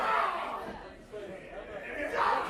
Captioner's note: crowd chatter